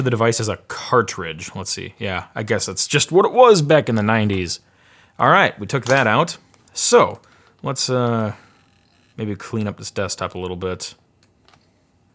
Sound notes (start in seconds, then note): none